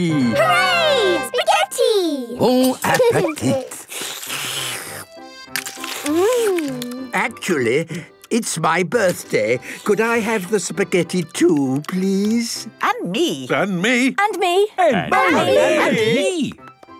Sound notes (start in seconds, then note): 2.6 slurping; 13.0 calling out in turn